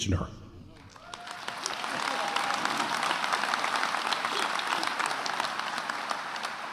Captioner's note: attendees cheering and applauding